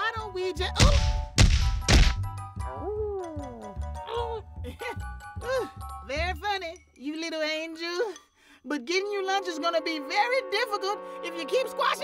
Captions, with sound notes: OH! OOH. (groaning) VERY FUNNY, YOU LITTLE ANGEL. BUT GETTING YOUR LUNCH IS GONNA BE VERY DIFFICULT IF YOU KEEP SQUASHING ME LIKE THAT.